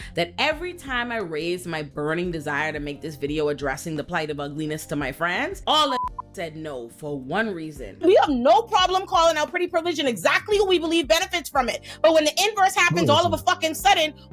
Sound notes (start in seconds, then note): 5.9 beep